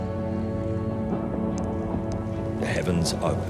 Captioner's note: thunder rumbling; raindrops falling